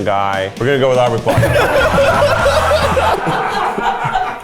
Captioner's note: all laughing